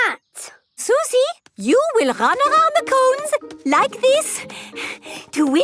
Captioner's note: panting